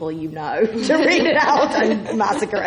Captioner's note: laughs